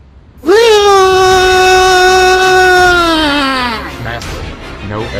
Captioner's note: Noo-Loo Yelling